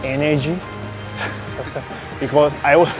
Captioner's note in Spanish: risas